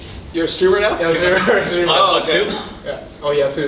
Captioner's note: laughs